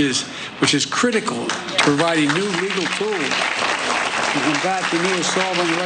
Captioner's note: applause